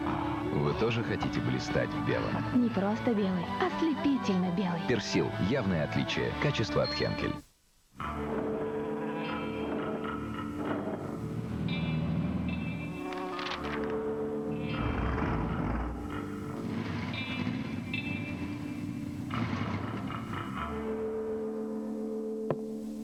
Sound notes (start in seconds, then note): 7.9 engines roar; 8.0 calm music; 22.8 rhythmic music